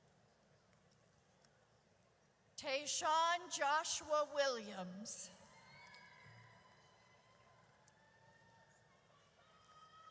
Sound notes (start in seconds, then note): 4.7 audience cheers